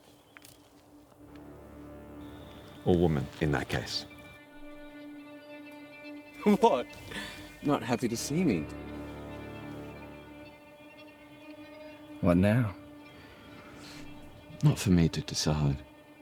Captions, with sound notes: Or woman in that case. [Dramatic music] (Chuckling) What? Not happy to see me? What now? Not for me to decide.